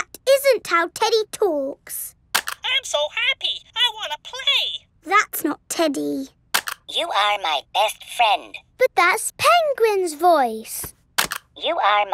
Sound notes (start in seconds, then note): none